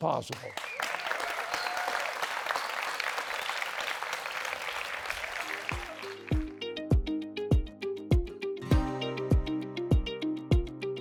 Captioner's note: applause